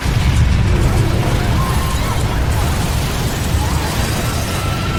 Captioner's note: explosion; glass shatters and debris falling down